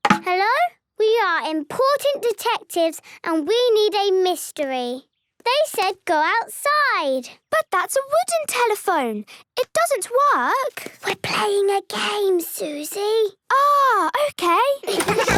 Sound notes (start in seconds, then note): 11.2 whispering